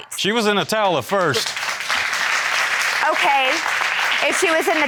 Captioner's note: applause